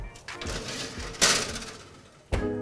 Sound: upbeat music; tray clatters; upbeat music

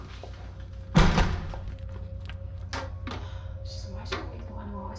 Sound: ominous music; door slams

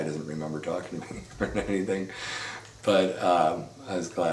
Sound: chuckles

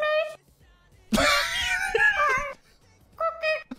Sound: laughing

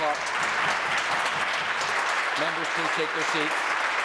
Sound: applause

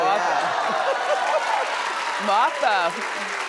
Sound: audience clapping

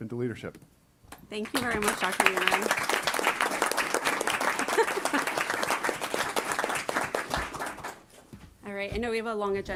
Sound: applause

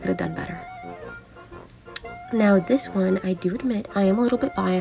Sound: smacks lips in dehydration

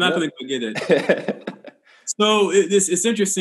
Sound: laughs

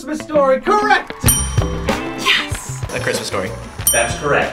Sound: bell rings

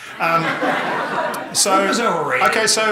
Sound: audience laughing

